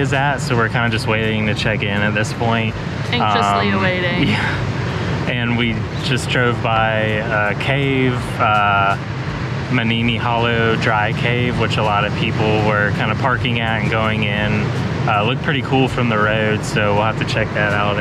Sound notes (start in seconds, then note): 5.2 chuckles